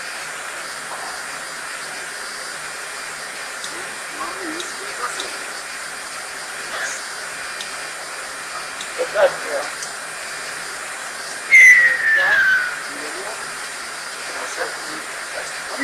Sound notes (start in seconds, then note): 11.4 surprised whistling